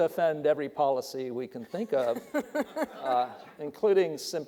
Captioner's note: audience laughing